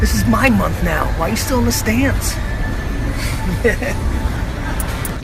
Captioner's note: laughs